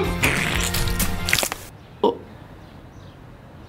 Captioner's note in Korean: 바지에 똥을 싸는 소리